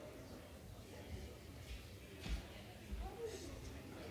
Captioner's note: background chatter